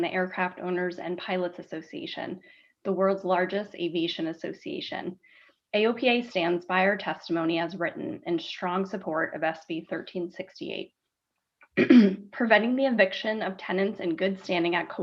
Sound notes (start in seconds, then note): 11.7 clearing throat